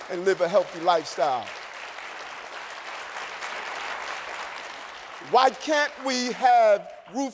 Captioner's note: applause